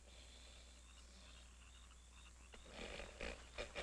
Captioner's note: crickets chirring